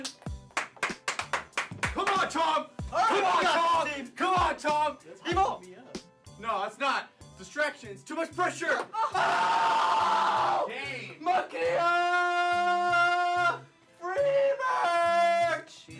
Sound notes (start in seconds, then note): 0.0 clapping; 9.0 cheering